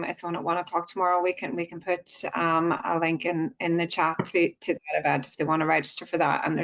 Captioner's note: audio distorts 43.05